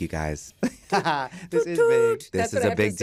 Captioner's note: laughs